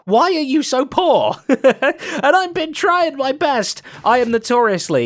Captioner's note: laughs